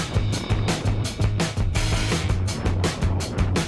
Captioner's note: windy